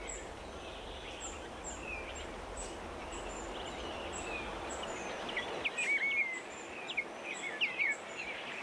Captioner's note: birds singing